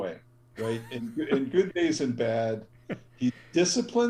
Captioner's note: laugh